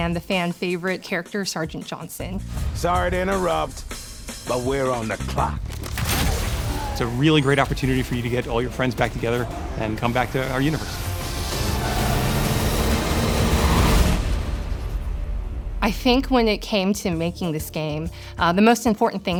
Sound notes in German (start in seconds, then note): 3.2 knisternde energie; 8.8 fahr- und schiessgeräusche